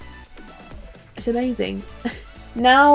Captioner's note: laughs